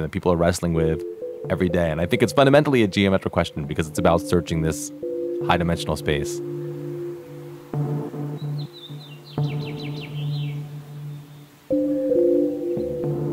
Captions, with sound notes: that people are wrestling with every day, and I think it's fundamentally a geometric question, because it's about searching this high-dimensional space. (birds chirping)